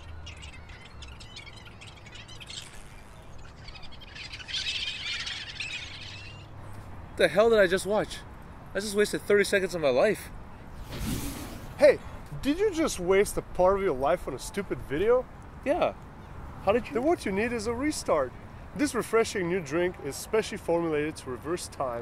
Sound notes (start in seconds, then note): 10.9 poof